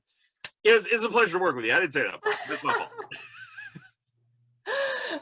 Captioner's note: laughs